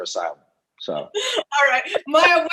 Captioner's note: laughs